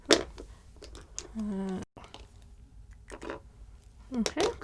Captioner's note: tools clanging on table